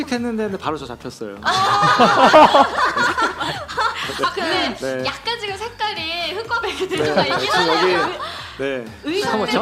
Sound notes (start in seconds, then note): 1.4 laughter